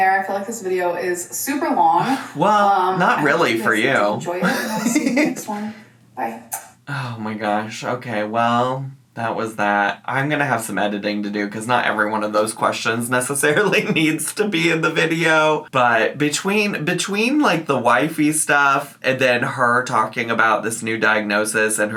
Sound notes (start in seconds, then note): 4.4 laughs